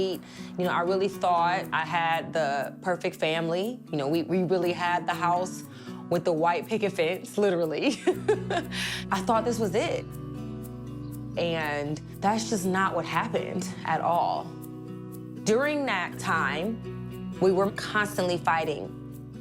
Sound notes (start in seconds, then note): 7.9 laughs